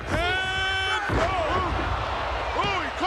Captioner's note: body slams